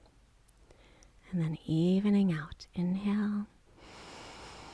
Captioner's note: inhaling